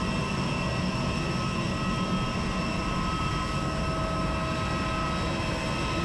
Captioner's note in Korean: 시끄러운 비행기 소리에 도망갑니다